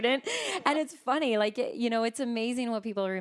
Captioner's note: laughing